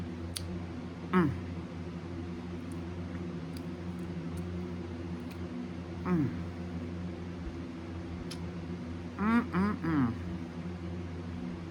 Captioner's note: moans in pleasure